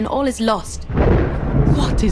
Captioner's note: thunder crashes